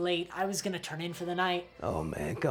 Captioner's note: none